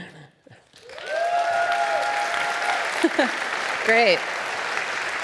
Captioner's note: audience applauding